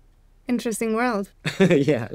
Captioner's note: chuckles